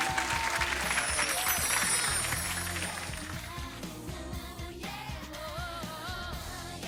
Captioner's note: upbeat music; wind chimes ring